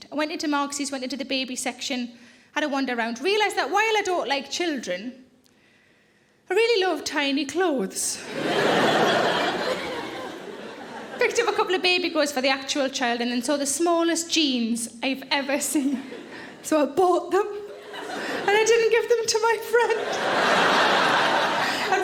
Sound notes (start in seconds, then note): 8.2 audience laughing; 19.8 audience laughing